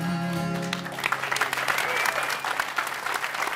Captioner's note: applause